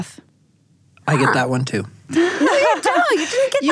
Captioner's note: laughs